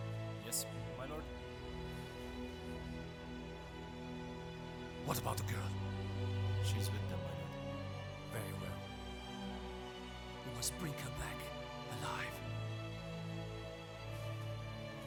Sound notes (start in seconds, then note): none